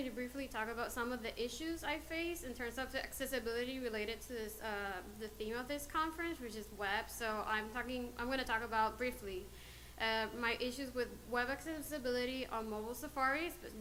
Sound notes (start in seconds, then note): none